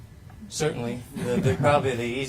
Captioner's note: panel chuckling